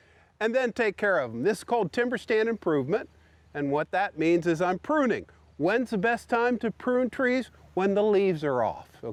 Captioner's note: none